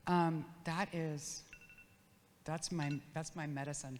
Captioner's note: phone ringing